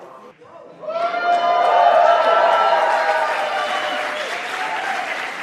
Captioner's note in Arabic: الجمهور يهتف بصوت عالٍ